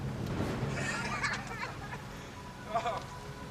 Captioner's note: man laughing